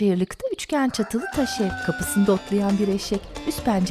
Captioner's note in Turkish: Horoz sesi